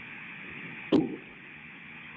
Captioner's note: sound of rocket–spacecraft separation